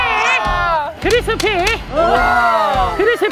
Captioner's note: claps